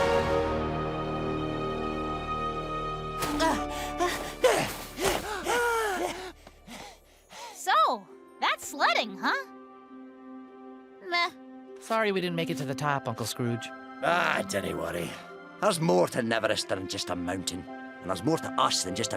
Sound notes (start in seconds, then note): 3.5 all panting